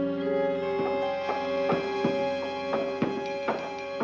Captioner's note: thudding